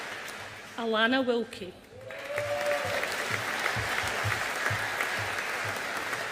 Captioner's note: audience applauding